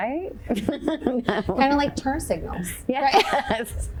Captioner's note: chuckles